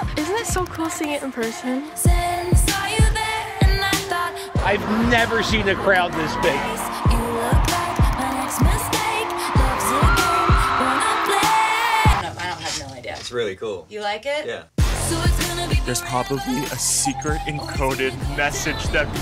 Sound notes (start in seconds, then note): 7.0 fans cheering; 9.4 screaming excitedly; 11.8 music stops